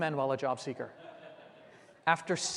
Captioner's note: laughter